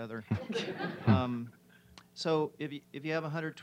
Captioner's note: audience laughs